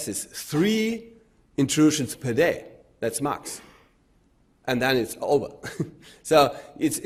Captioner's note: chuckles